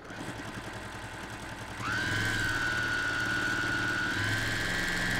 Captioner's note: sewing machine humming